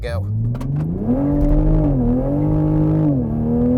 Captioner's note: engine revving